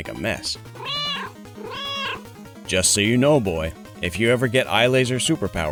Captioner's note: meow, meow